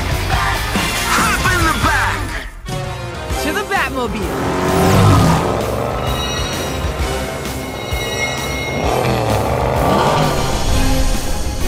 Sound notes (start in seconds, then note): 4.3 engine revving; 8.2 engine roaring